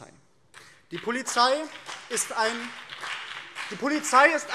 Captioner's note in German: Beifall